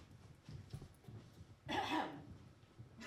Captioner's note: clearing throat